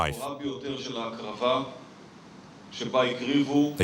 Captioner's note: Hebrew spoken audio